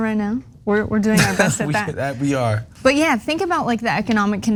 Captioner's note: laugh